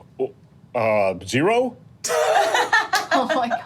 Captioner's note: laughing